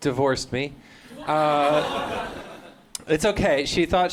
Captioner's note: laughter; crowd gasps